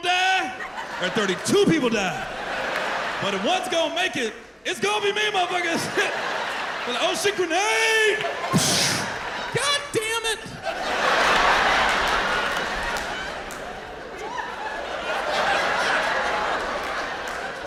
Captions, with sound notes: Either 33 people die, or 32 people die. But if one's gonna make it, it's gonna be me, motherfuckers." Be like, "Oh, shit, grenade! -[imitates explosion] -God damn it! [laughter]